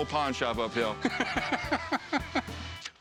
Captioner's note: rick laughs